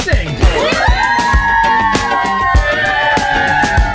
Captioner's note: people cheering